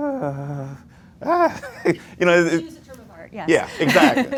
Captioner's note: laughs; laughts